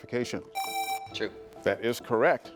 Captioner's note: presses buzzer